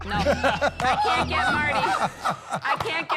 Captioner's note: laughing